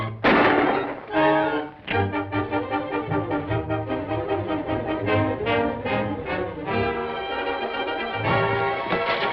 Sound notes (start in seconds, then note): 0.6 gun clicks